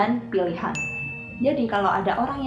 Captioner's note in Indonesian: ding